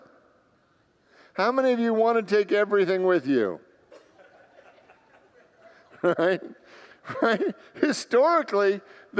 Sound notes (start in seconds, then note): 3.8 congregants laugh; 7.3 laughs